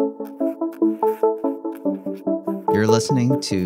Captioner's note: bright ethereal music; pencil scratching